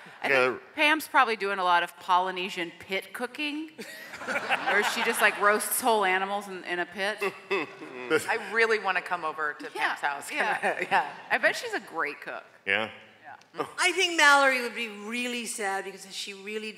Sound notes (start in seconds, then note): 3.8 laughter